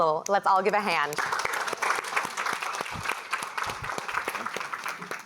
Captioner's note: applause